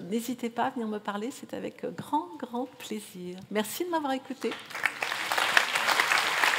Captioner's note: applause